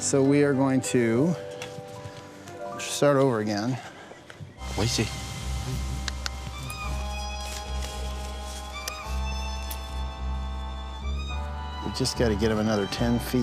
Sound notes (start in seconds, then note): 4.9 speaking softly; 6.0 clicks tongue